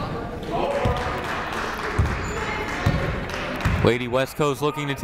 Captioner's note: crowd clapping